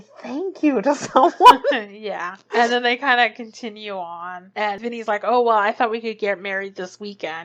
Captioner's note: laughs